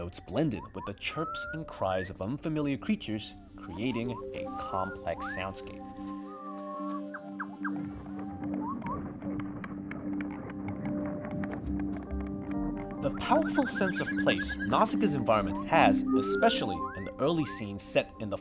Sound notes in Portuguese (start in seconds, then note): 6.5 Barulhos de criaturas estranhas